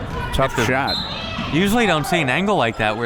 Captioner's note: whistle